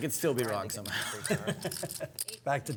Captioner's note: laughs